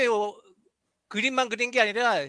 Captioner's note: non-english speech